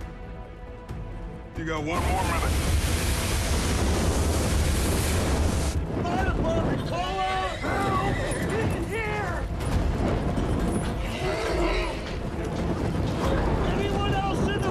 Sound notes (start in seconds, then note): 10.5 horse neighs